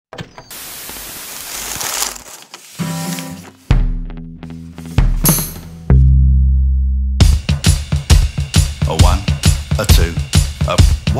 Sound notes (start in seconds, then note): 0.5 static hissing; 0.6 paper crinkling; 3.6 upbeat rock music